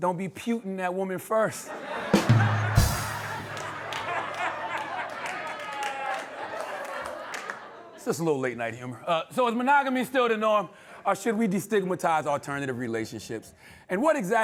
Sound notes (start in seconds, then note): 2.1 drum sting/cymbal; 4.0 laughter